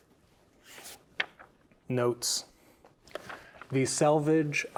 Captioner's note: pages rustling